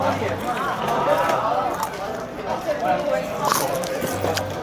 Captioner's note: crunchy